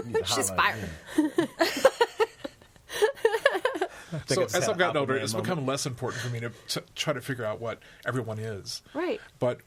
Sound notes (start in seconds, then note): 2.8 laughs